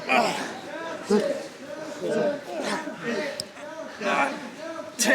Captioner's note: students grunt